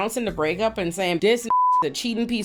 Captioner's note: beep